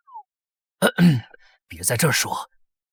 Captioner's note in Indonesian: batuk